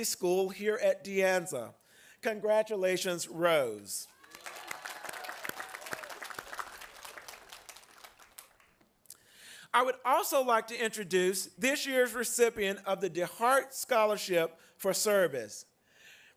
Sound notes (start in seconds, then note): 4.0 applause